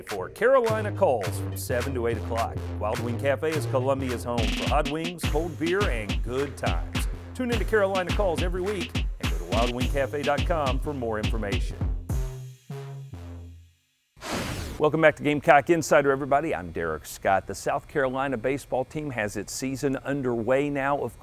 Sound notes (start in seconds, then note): 12.3 upbeat music; 14.0 air whooshing